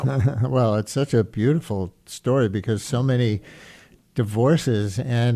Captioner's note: chuckles